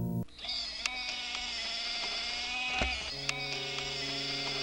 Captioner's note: wheelchair whirs